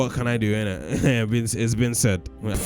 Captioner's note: laughs